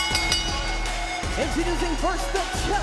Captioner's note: bell ringing